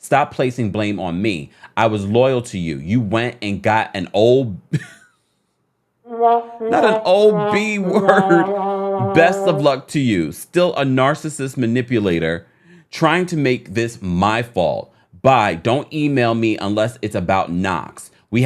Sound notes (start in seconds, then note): 4.9 laughs; 6.0 sad trombone music